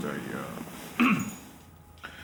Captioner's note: clears throat